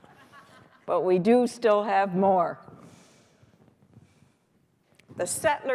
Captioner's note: laughter